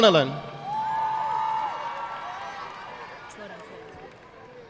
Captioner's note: audience clapping